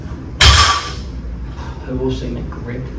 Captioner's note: weight clanks